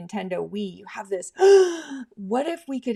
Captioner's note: gasps